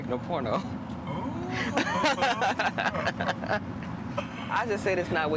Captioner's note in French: Rires